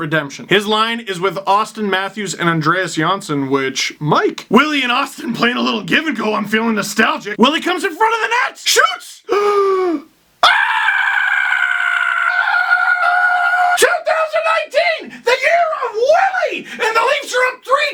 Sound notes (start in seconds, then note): 9.3 long, loud gasp